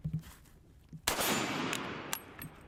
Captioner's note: gun fires